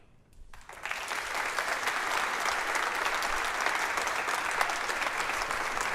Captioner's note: applause